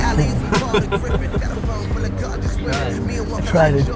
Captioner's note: laughs